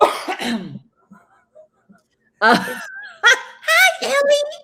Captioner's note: both laughs